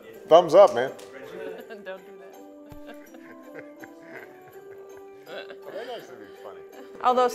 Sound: laughter

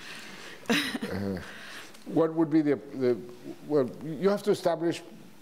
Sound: laughs

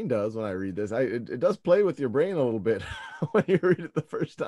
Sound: laughs

